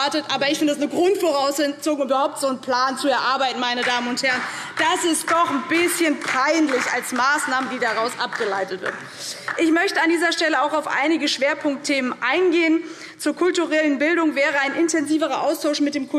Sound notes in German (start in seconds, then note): 8.5 Beifall